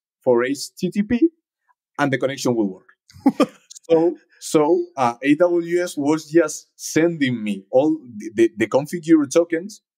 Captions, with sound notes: for HTTP, and the connection will work. (host chuckles) So AWS was just sending me all the configure tokens